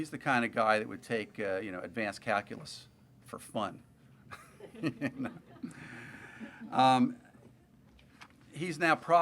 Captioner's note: laughter